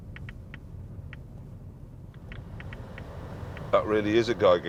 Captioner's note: geiger counter clicks slowly